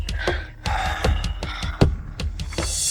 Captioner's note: sigh